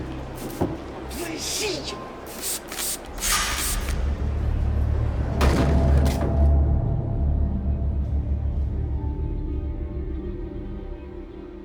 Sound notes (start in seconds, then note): 2.2 spray sound; 5.9 eerie music